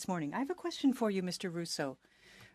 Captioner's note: speaking French